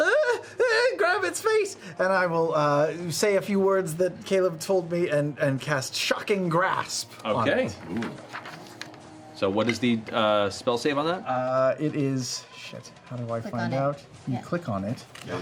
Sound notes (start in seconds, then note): 0.0 high-pitched whimpering; 1.8 normal voice